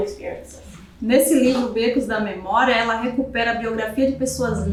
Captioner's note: speaking portuguese